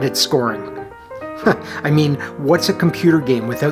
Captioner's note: chuckles